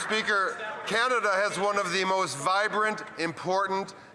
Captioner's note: applause